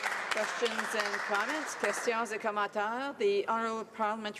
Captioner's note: applause